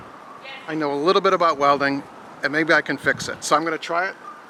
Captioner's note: none